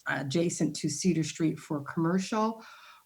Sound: none

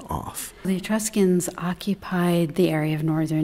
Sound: voiceover

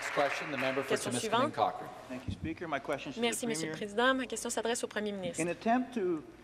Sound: some Applause

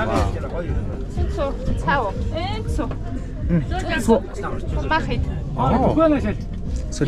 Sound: woman speaks mongolian

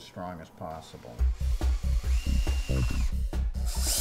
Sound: whirring

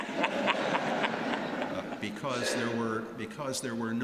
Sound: laughter

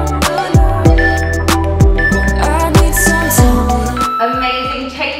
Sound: alarm beeping

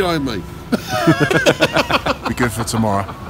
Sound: laughs

